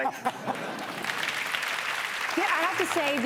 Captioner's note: audience clapping